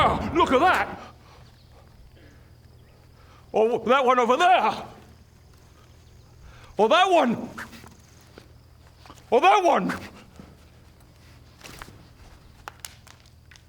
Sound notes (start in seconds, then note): 2.1 crickets